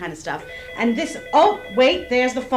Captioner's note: phone ringing